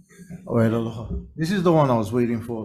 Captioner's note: speaking in foreign language